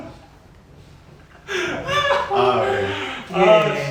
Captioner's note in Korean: 입틀막